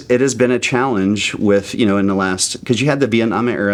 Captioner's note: laughing